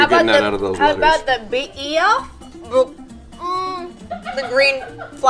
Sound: faintly speaking

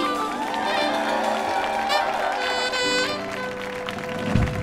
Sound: audience cheers and applauds

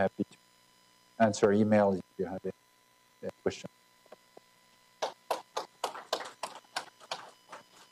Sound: applause

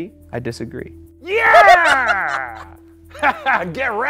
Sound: laughs

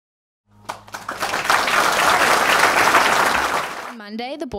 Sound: applause

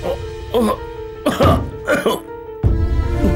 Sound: coughs

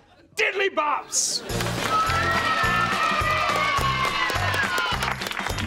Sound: cheering, applauding; applauding

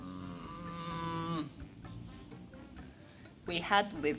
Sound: groaning

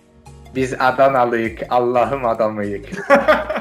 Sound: imitating the accent there

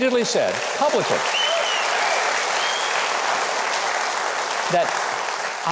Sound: audience cheering

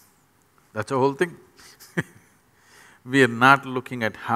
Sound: laughs

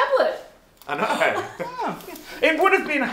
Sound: group cheers; chuckles

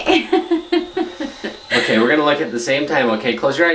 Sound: laughs

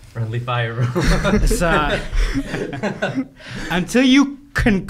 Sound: laughing

